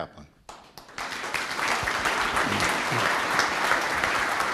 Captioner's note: audience applauds